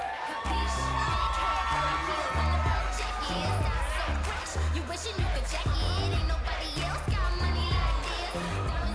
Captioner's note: cheers & applause